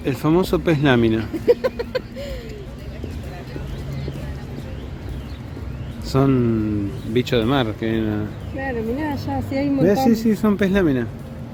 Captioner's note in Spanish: chiste y risas